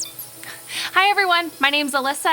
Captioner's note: digital beeping; gentle music